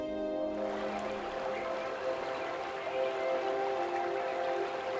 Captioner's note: water rushing